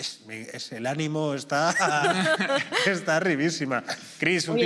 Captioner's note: laughter